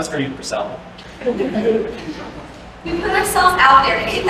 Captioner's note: laughter